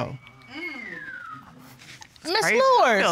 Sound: man whistling

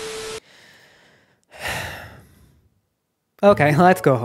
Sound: deep sigh of sadness

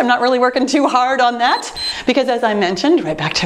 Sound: timer beeps

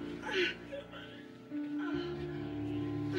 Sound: groaning

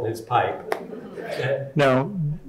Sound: audience chuckling

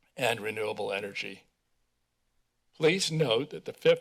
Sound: silence

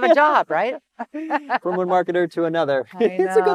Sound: laughs

